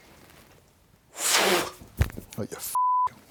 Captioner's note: blows out; beep